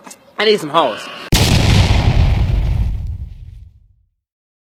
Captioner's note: explosive sound